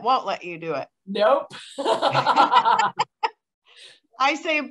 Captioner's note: laughter